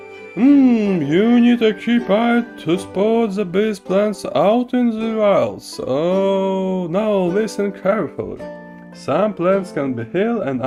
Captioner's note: reading aloud